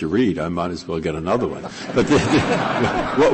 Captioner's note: laughter